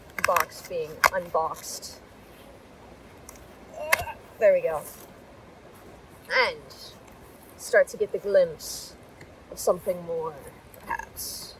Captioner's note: starts humming the intro